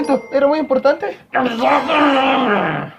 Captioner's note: grunts